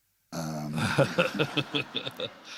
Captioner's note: laughter